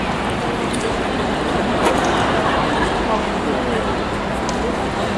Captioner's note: Quentin laughing